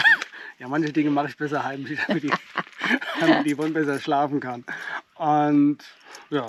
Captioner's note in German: gelächter